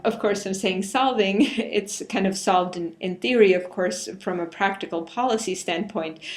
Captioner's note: laugh